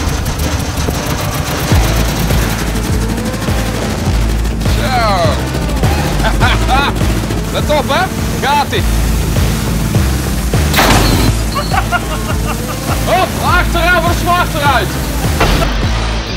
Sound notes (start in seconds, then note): 10.7 crashing car window